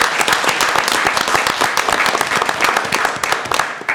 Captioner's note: applause